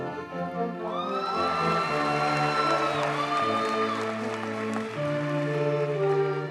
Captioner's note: audience cheers and applauds